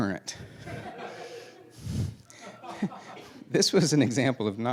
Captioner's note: laughing